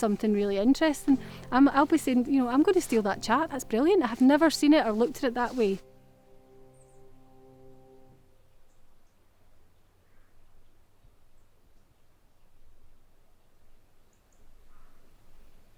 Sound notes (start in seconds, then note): 6.0 birds chirping